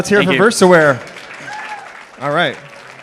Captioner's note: applause